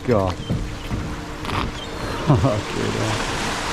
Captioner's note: waves crash softly; seagulls cry